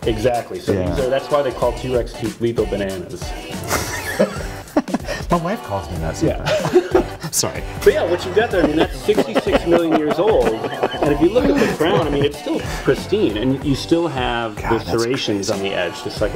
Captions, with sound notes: - Exactly so that's why they call T-rex teeth lethal bananas (laughter) - My wife calls me that sometimes - Yeah (laugh) - Sorry. - But yeah what you get there, I mean that's 66 million years old and if you look at the crown I mean its still pristine and you still have the serrations on the edge - God that's crazy